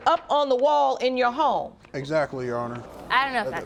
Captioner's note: audience murmuring